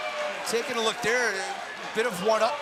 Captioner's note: crowd cheering